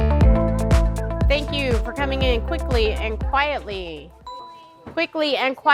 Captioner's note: ding